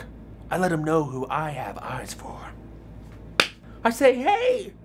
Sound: claps

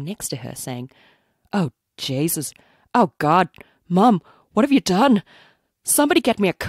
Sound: northern irish accent

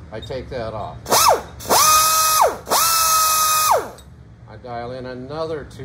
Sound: grinder buzzing

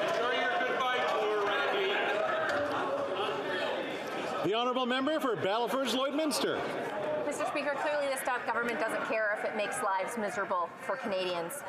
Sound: yelling

